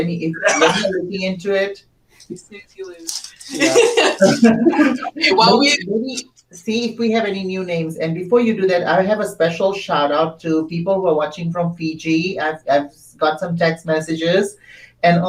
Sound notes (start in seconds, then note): 0.4 laughter drowns out; 2.2 laughs